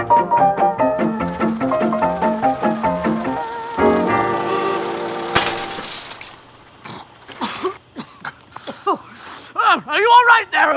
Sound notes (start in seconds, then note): 3.3 honk; 5.3 crash; 6.8 coughing; 9.7 in burly British accent